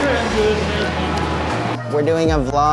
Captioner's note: distant talking